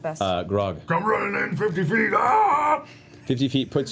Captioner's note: war cry